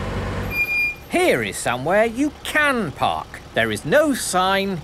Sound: car engine starting; breaks squeaking

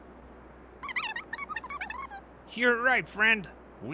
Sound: squreaking

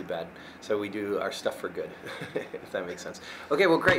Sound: laughs

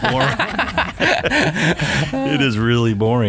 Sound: laughing

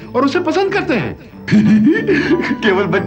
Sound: laughs

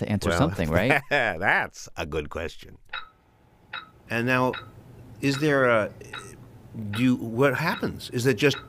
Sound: laughs

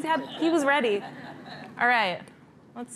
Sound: chuckles

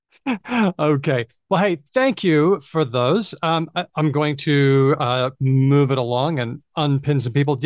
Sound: laughs

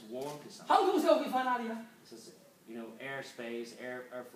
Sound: speaking foreign language

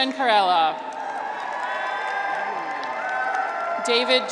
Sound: audience applauds; graduates cheer

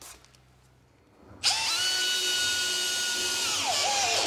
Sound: shrill whirring

